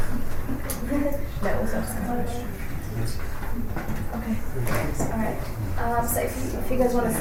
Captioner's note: laughs